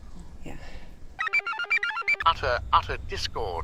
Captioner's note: computer chirps